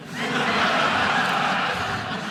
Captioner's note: audience laughing